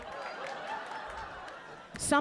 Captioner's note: audience laughing